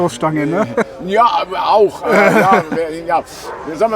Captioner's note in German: lacht